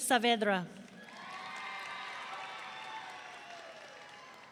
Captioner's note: audience cheering